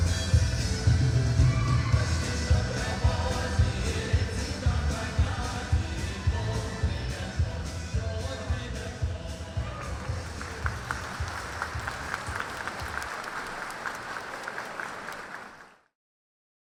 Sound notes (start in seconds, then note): 12.1 loud applause